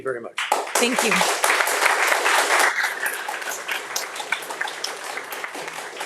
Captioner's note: audience applauding